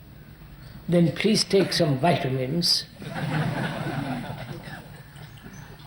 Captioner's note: laughter